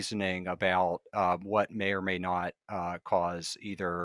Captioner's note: none